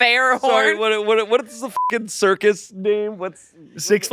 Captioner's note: beep